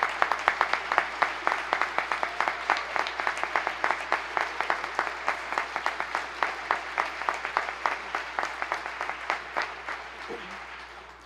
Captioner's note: applause